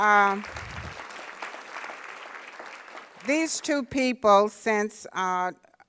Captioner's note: applause